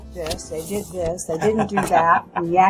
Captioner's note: laughs